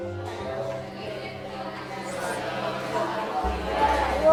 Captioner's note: children chattering